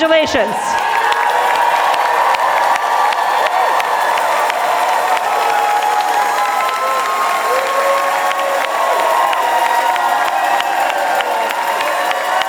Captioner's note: applause and cheers